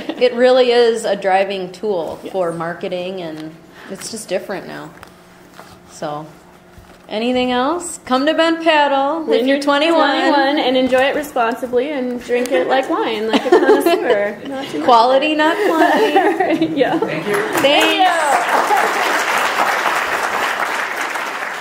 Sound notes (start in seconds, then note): 10.7 voiceover; 14.8 voiceover; 17.2 applause; 17.5 voiceover